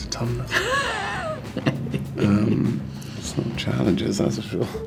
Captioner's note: Rian laughs